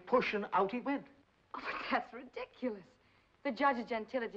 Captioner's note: scoffs